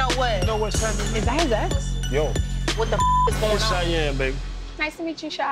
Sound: beep sound

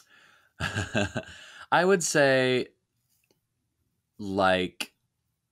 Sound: laughing

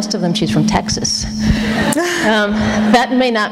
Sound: laughter

